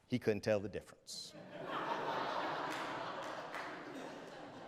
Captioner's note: audience laughs